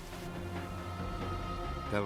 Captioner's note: shrieking